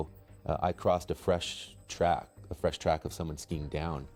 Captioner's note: voiceover